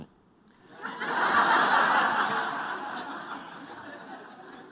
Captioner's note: laughter